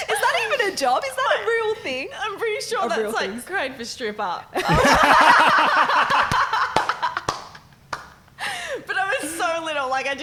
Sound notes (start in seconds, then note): 4.6 laughing; 6.0 clapping